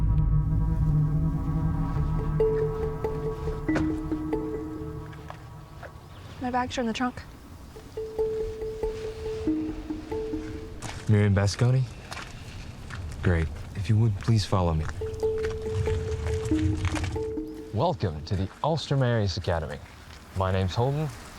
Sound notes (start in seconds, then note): 0.0 tense music; 3.7 door thudding; 7.7 tense music; 14.9 tense music